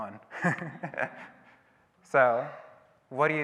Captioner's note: audience laughing